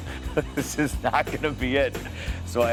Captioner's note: laugh